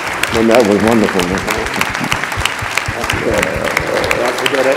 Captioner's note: Cornel drowned by applause